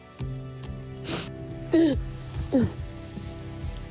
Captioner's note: crying